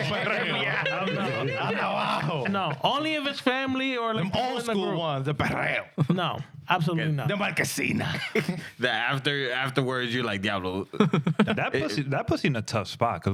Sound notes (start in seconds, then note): 7.7 speaking In Spanish